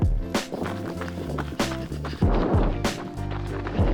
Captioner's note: shoes tapping